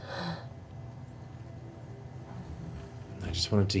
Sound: gasps

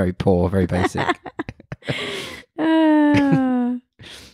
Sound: laughs loudly

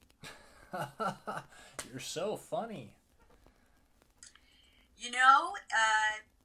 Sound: chuckles

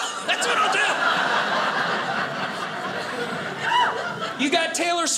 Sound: audience laughing

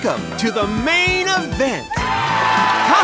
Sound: cheering

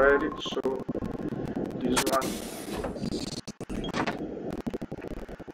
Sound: sound of submarine; whispering

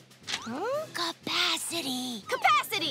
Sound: whispering

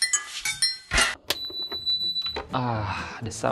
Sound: sound of induction cooker

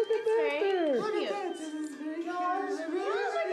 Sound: girly voice

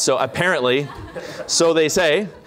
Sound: laughter

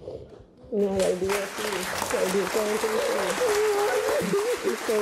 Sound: audience claps

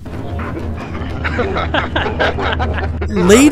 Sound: Kestrel crew laughs

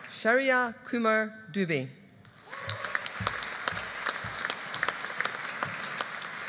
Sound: audience applauding

